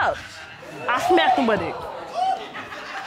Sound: audience laughing

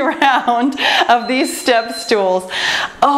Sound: timer beeps

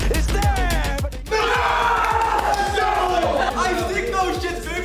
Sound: all shout

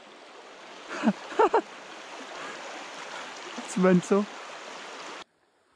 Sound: softly laughs

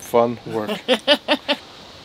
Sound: laughs

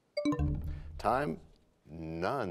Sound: bell chimes, time expires

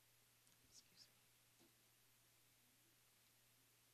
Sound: whispering

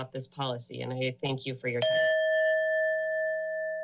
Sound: bell sound

